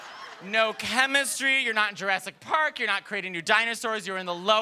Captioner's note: laughter